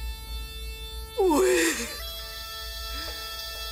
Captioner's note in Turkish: Ağlıyor